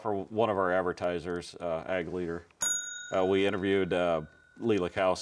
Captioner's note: bell dings